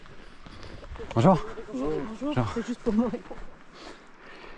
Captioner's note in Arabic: بالفرنسية